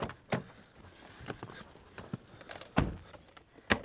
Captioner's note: door closing